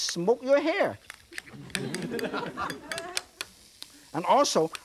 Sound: audience laughing

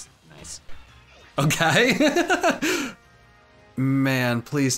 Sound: laughs

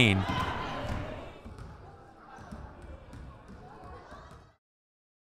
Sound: players chattering

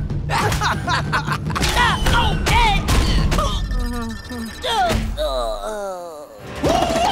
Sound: laughing; groaning

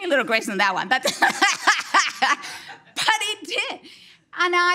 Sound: speaker laughs

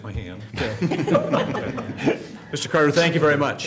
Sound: laughter

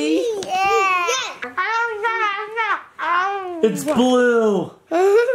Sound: gibbers; laughs

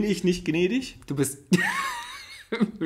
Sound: laughs

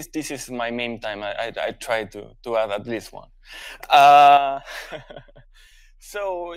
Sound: chuckles

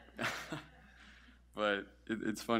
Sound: laughs

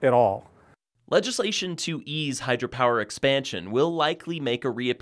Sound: voiceover

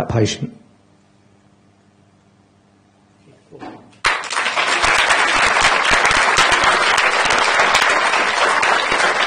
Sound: applause

